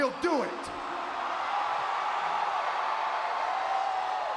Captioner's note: audience cheering